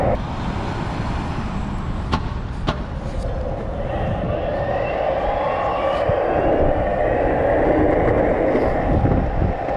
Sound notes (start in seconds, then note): 3.2 wind blowing into microphone